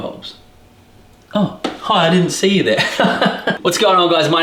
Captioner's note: laughs